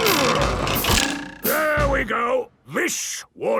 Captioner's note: wood creaking; boings